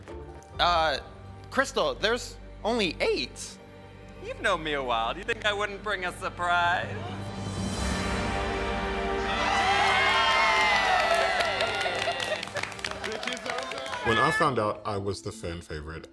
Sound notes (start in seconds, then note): 7.5 dramatic music; 9.2 group cheering and clapping